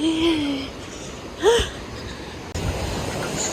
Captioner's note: tired